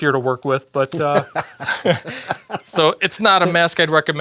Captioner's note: both laugh